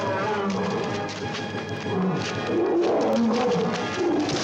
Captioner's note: gorilla bellows